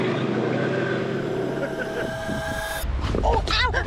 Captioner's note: engine roaring